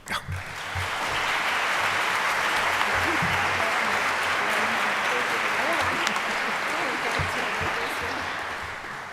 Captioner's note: applause